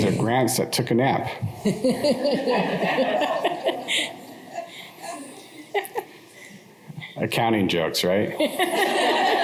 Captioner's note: laughter